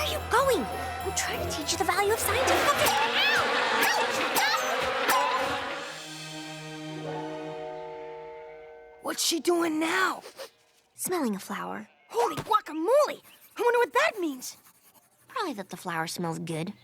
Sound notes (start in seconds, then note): 5.6 cows mooing; 10.2 sniff!